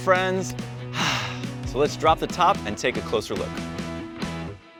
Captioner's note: sighs; upbeat music